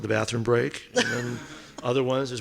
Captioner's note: laughing